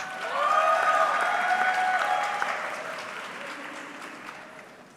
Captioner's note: audience clapping